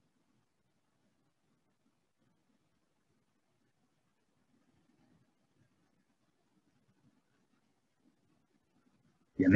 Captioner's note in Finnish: hiljaisuus